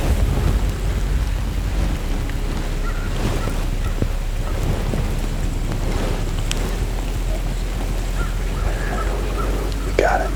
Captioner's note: light wind, birds calling